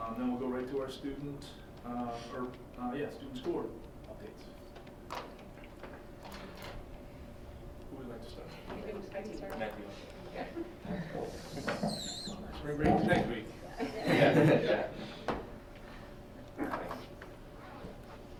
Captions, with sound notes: Then we'll go right to our student school board updates. Who would like to start? (chuckling) Spring break is next week. (laughing) >>Yeah.